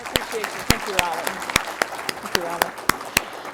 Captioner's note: applause